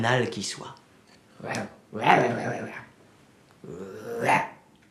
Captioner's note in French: Grognements